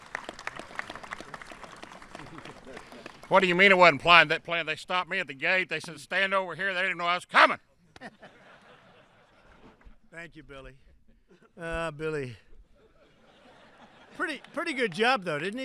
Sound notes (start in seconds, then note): 0.0 applause; 7.9 laughter; 12.6 laughter